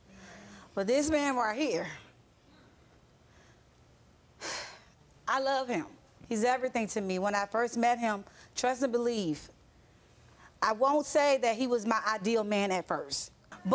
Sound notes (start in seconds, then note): 3.2 exhales sharply